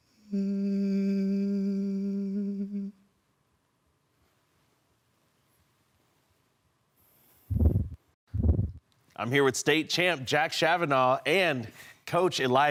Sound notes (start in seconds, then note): 0.2 humming; 3.4 rustling; 7.5 whoosh